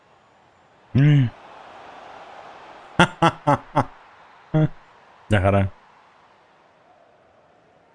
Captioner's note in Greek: χειροκρότημα